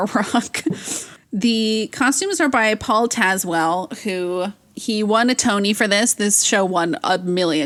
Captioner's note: laughs